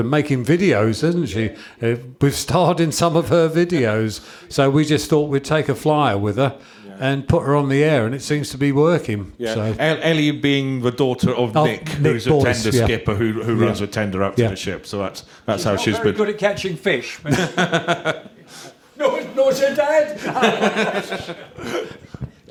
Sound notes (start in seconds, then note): 17.2 chuckles; 20.1 chuckles